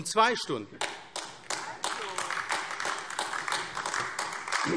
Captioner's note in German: Beifall AfD